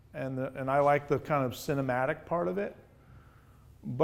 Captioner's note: none